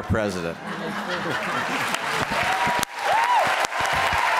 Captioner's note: applause